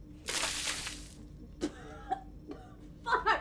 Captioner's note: water splashing; Heather coughing